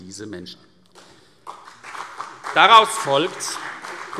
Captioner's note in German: Beifall CDU und BÜNDNIS 90/DIE GRÜNEN